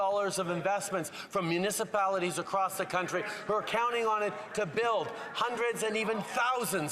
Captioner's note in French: voix de l'interprète